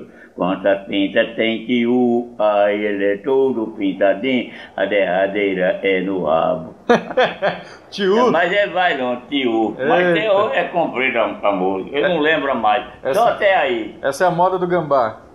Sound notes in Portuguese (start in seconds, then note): 6.8 risos